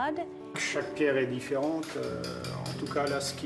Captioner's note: speaking French